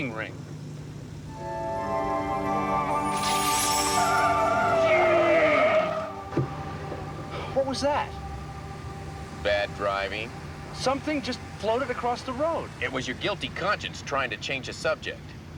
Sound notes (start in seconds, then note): 1.1 ominous music playing; 3.3 tiers screech